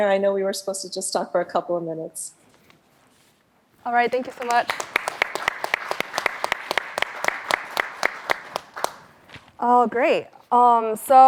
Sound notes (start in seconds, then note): 4.0 applause